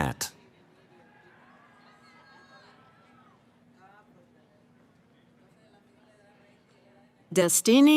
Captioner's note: cheering